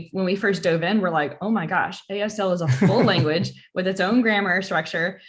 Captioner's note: laughter